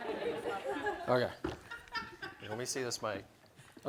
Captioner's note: laughter